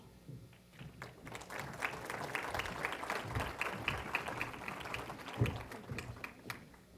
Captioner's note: applause